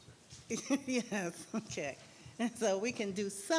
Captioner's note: laughing